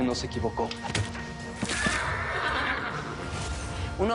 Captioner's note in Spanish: Golpe, ruido al caer